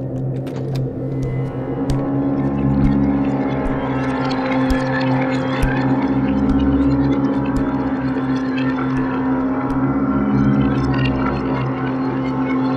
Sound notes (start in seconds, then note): 2.6 footsteps Moving